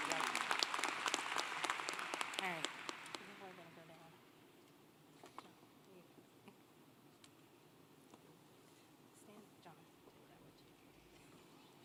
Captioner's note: applause